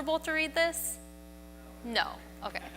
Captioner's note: audience member yells no